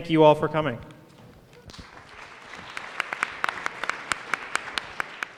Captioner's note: applause